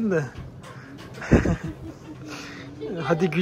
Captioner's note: laughs